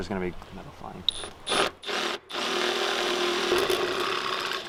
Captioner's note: drilling